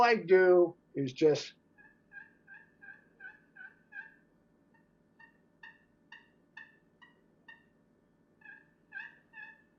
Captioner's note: turkey call